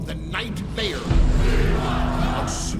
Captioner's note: chanting